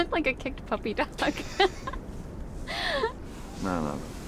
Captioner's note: Billy and Suzy laugh